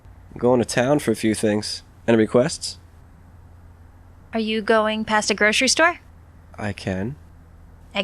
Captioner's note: none